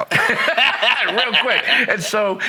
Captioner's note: laughing